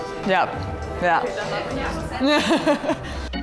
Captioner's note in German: Sie lacht